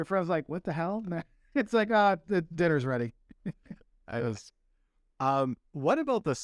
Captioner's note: laughter